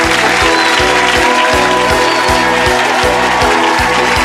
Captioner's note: audience cheering